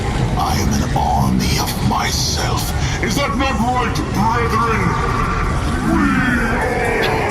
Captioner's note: simultaneously shouting